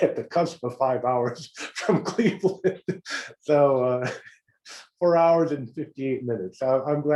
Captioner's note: laugh